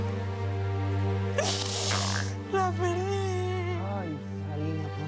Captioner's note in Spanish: sollozando